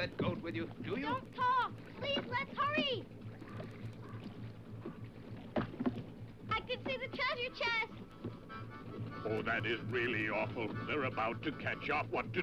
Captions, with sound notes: Do you? - Don't talk! Please, let's hurry! (water splashes) I can see the treasure chest! (lively harmonica music) - Oh, that is really awful. They're about to catch up, what to do!